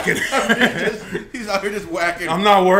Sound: laugh

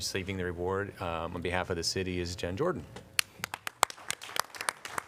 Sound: applause

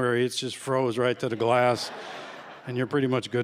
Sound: laughter

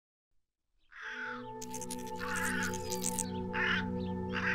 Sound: crows; Atlantean language

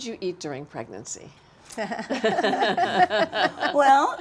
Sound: all laughing

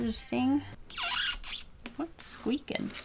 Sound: sketchbook sqeaks loudly

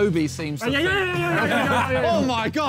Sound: Tobi stammering

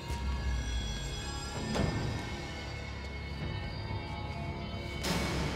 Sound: door creaks

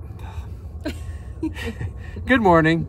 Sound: laughter

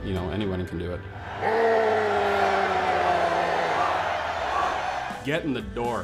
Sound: crowd chanting

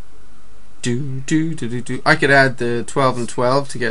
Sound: humming

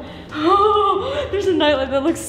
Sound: nervous laughing

